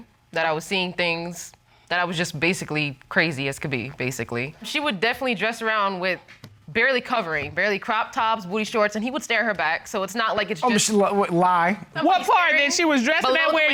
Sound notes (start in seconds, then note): 10.9 stammers